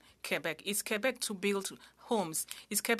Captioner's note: speaking french